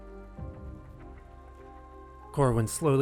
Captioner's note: silence